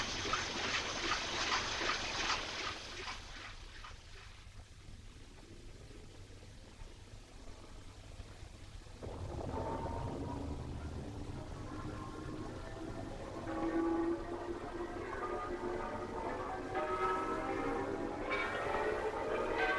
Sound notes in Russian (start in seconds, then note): 9.0 вдалеке слышны колокольный звон и взрывы